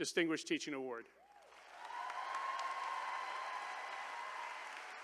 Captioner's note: attendees cheering